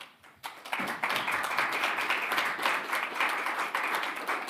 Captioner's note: attendees applauding